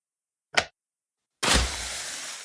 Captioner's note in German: Klick